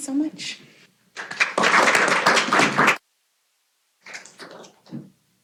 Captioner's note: applause